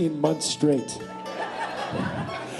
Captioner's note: laughter